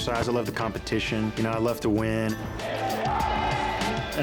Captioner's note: players shouting